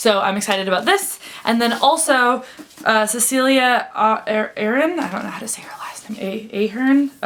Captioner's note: whispers